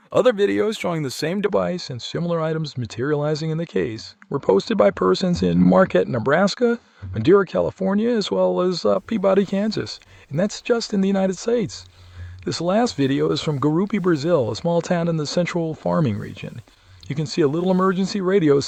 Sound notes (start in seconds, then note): none